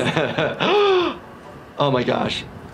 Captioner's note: laughing; gasps